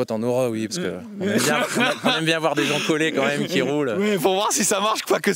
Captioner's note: laughs